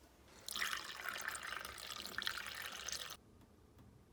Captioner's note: water splashing